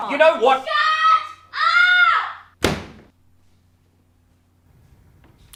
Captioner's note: door slams